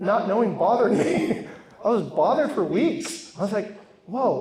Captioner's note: laughs